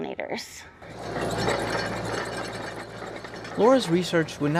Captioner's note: tractor rumbling